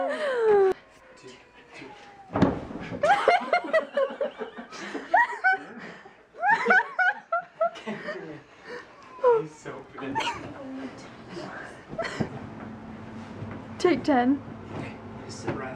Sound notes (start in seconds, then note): 2.9 laughter; 10.8 scuffling